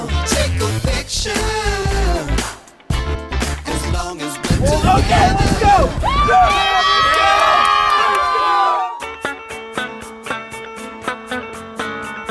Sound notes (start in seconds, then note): 5.0 screaming; 9.1 upbeat music